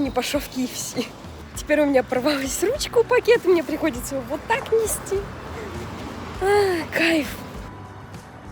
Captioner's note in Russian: вздох